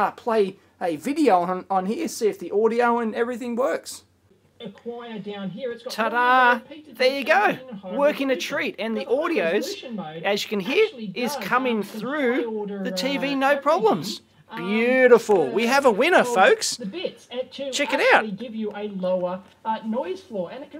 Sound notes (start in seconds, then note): 4.2 audio from EEVblog playing on TV